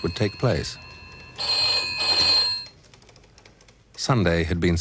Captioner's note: ringing